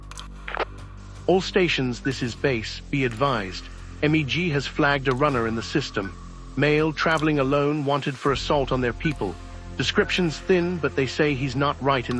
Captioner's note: radio